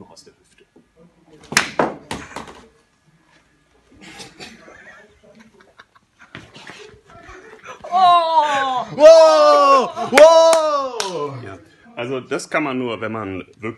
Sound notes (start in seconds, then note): 7.9 immense cheers